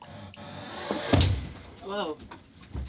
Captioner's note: thump